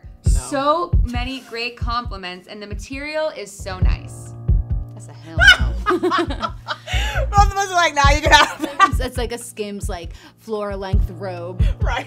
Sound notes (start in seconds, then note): 5.4 laughing